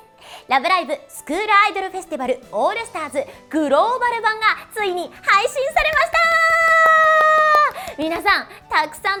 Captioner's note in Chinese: 拍手